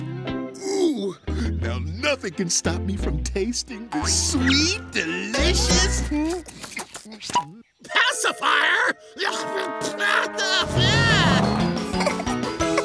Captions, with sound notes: Ooh! Now nothing can stop me from tasting this sweet, delicious... pacifier? [spitting] [giggling]